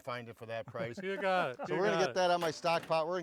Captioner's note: laughs